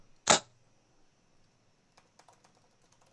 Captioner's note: dart ticks